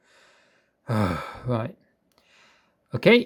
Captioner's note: sighs